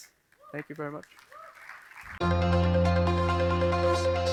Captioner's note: applause